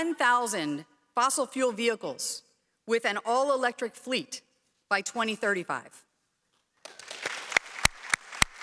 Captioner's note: applause